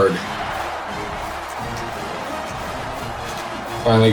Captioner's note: crowd cheering